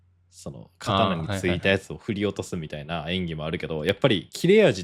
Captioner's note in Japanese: none